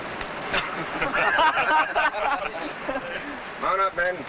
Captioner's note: men laughing